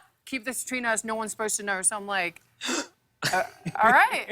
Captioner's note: gasps